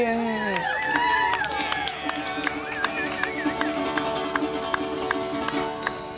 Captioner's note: applause